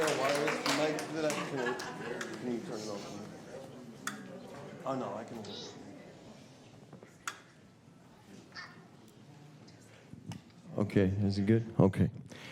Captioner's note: applause